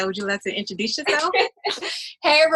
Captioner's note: laughs